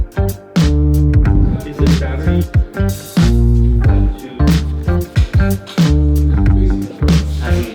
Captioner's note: indistinct conversations